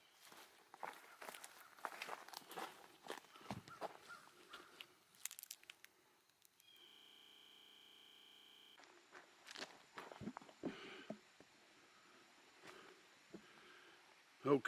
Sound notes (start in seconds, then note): 0.9 crows cawing; 6.6 static buzzing; 10.6 breathing heavily